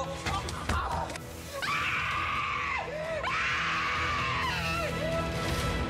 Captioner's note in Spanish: gritos